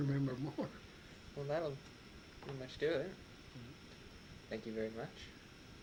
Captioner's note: chuckles